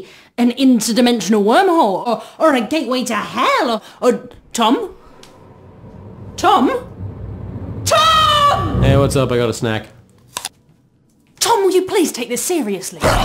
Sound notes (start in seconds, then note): 10.7 bites